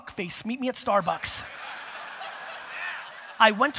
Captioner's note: audience laughter